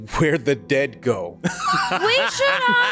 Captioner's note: laughing